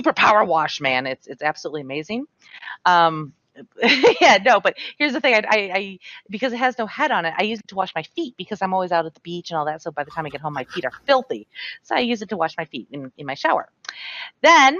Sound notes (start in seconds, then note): 4.1 laughs